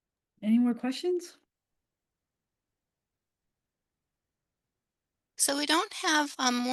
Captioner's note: pause